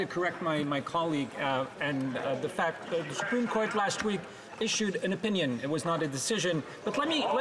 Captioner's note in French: voix de l'interprète